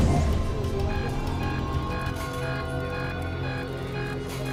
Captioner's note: radar beeps